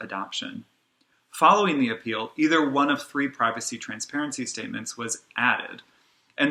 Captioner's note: click